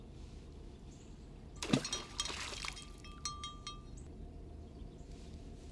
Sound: water splashing

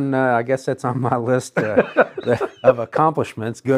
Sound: chuckles

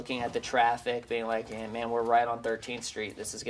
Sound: none

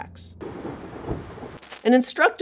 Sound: thunder distantly rumbling

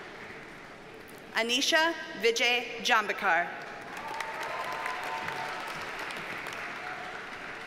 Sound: audience cheers and applauds

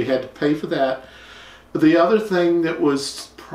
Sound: none

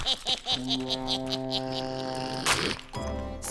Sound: laughing; growling

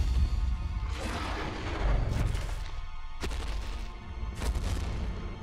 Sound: dinosaur roar; footsteps

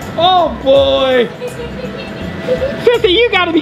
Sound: laughs

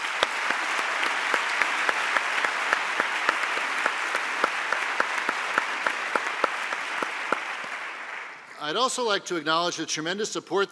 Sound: applause

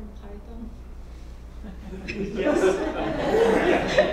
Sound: laugh

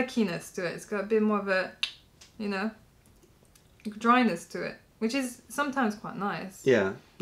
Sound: clicking sound

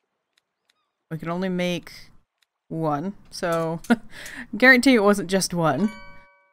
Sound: laughs

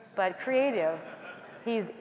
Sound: laughter

